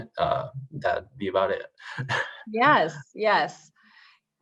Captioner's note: chuckles